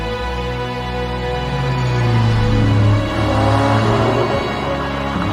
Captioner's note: engine revving